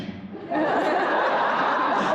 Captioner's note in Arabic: الجمهور يضحك ويهتف; يضحك